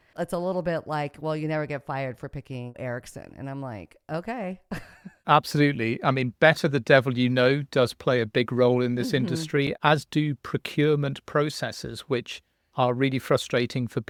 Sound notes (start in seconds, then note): 4.8 chuckles